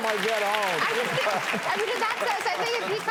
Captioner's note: applause